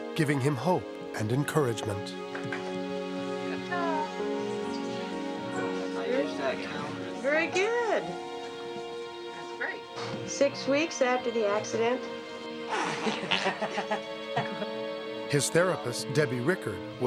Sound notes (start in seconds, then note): 2.6 soft upbeat music; 12.7 both giggling